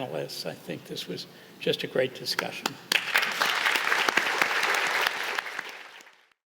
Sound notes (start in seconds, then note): 2.8 applause